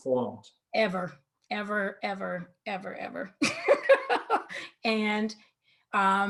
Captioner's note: laughs